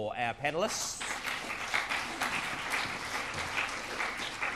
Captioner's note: crowd clapping